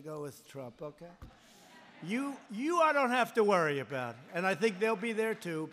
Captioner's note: laughter